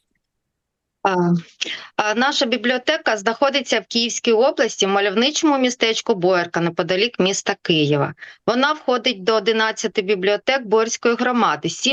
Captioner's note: foreign Language